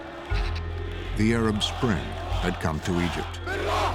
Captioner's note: crowd chanting